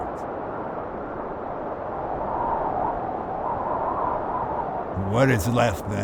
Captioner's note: wind whistling continues